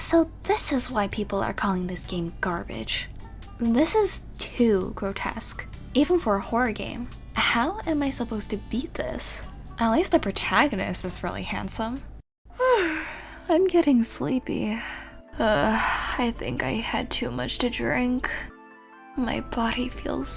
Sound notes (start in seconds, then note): 9.7 sigh